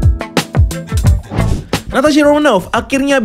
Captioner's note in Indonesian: suara transisi